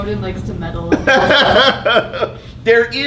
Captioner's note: laughing